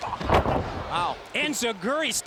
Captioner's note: wrestlers thudding